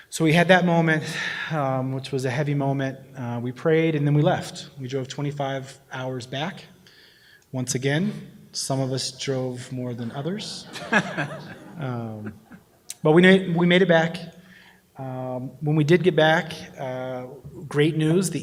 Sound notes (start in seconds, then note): 10.6 laughter